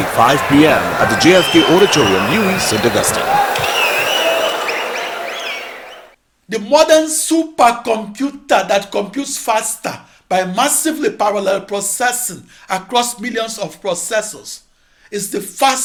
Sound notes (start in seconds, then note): 2.8 wild applause and cheering for 22 seconds